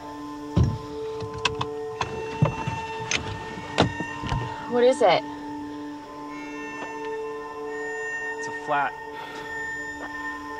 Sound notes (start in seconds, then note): 0.6 seat belt clattering